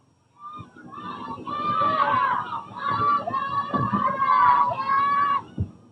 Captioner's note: clamoring